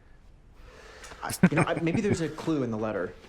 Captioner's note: chuckling